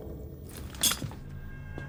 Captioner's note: clinks